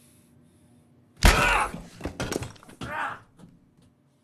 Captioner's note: bang